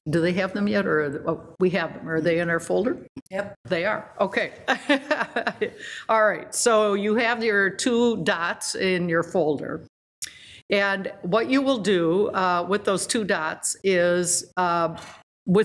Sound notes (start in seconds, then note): 5.3 laughs